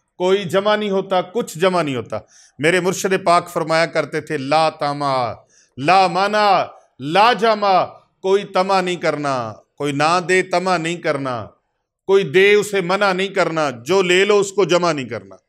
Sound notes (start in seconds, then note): 6.6 Arabic